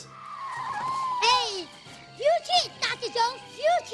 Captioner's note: Willie screaming per usual in background